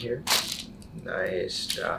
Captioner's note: cracks